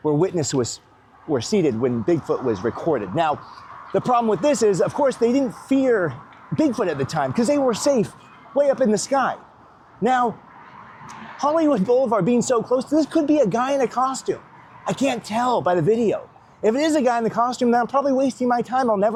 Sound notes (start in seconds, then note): none